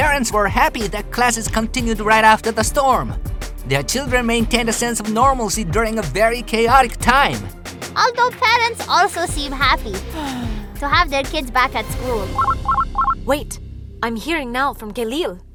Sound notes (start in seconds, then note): 10.0 sigh; 12.2 ringing